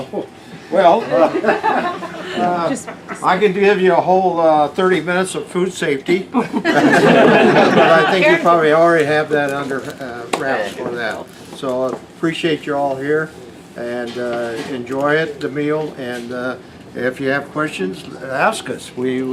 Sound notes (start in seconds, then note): 6.3 laughter